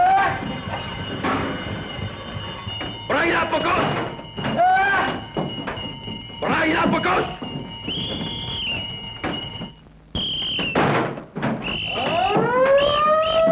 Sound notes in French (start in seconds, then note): 3.0 langue étrangère; 6.3 langue étrangère